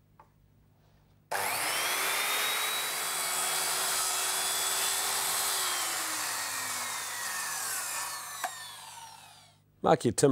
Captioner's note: saw cutting